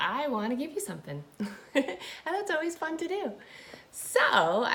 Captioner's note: laughing